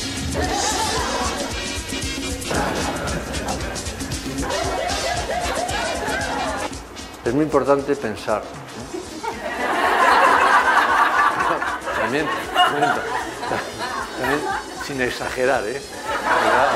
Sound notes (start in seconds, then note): 12.5 laughing